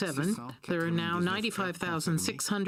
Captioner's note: speaking French